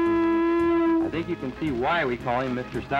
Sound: <i> foghorn sounds</i>

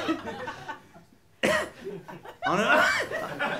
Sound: coughs; clears throat

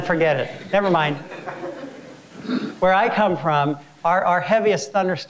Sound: laugh

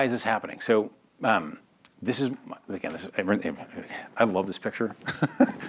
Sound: laughs

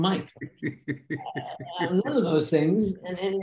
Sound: Denis laughing

